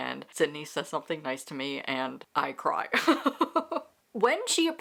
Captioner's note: laughs